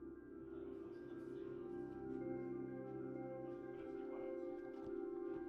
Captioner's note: team chattering